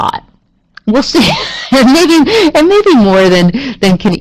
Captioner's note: chuckles